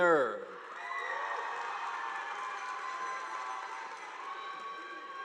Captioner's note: audience applauding